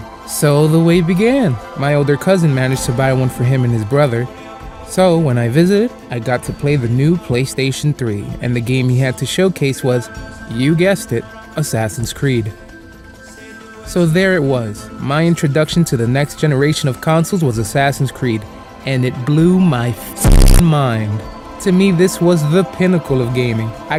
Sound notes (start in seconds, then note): 20.2 glitch